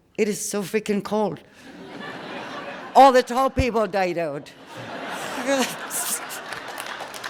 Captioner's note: laughter